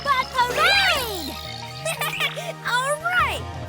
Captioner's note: laughing